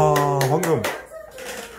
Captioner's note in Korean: 박수